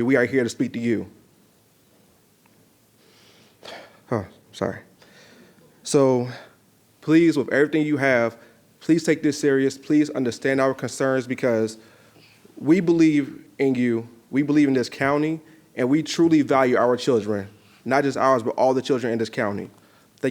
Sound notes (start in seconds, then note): 3.6 sighs